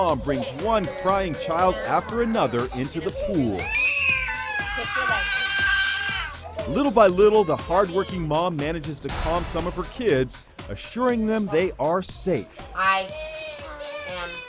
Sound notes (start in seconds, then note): 3.6 child screaming